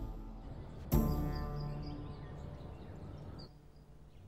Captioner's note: birds chirping sound